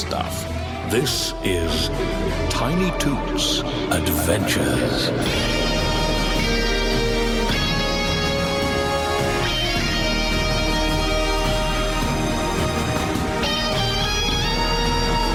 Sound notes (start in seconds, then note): 1.9 echoing